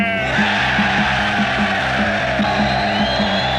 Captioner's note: crowd roars